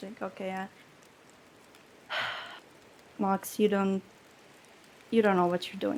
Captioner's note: sighs